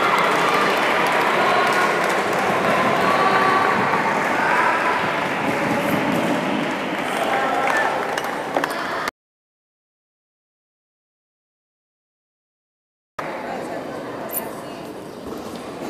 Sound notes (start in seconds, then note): 6.5 applause